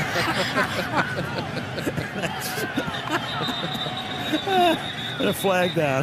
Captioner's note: laughter